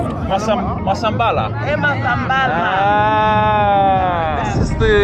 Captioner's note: people speaking in foreign language